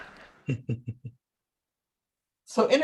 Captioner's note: audience laughing; chuckles